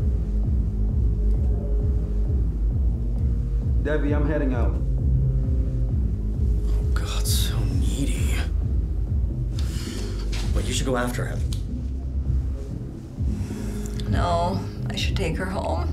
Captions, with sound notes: [muffled through door] Devie, I'm heading out. Oh god, so needy. Wait, you should go after him. No, I should take her home